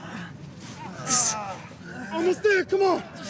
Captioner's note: students grunting